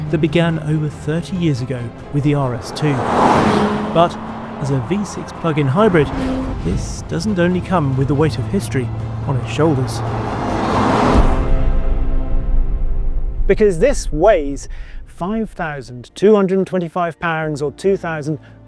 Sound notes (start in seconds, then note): 3.2 vehicle revs; 10.3 dramatic music continues; 10.3 vehicle revs